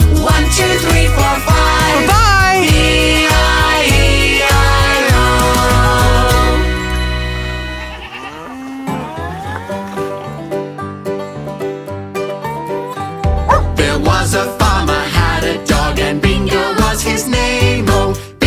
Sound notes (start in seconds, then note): 7.5 goat bleating; 7.6 cow mooing; 10.1 upbeat music